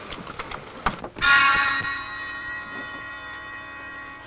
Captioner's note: bell ringing